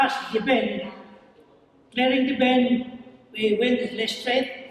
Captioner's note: foreign language